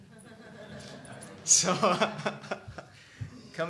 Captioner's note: laughing